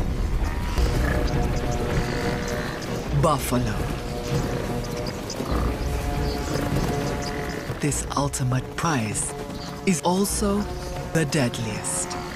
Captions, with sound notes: (snorting) Buffalo. But this ultimate prize is also the deadliest.